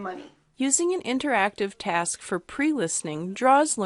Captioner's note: voiceover